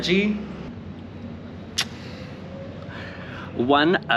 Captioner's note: sound of love birds smooching